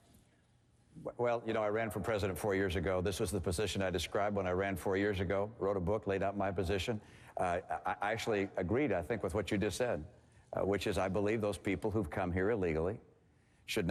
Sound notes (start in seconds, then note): none